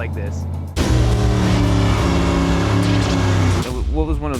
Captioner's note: revving